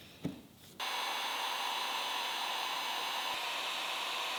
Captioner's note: heat gun whirring